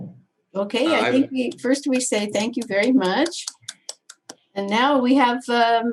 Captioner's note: clapping